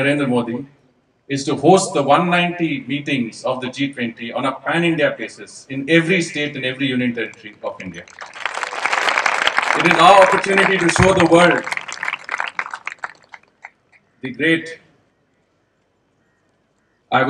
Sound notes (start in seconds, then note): 7.8 applause; 8.0 cheering/Applause